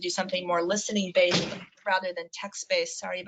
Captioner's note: door slams